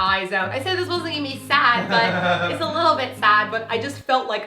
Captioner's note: laugh